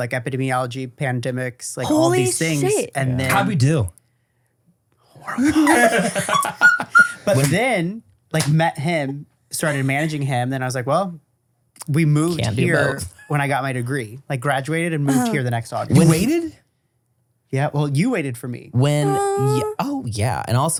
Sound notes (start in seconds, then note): 5.0 whispers; 5.2 laugh